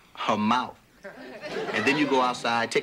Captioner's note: crowd laughing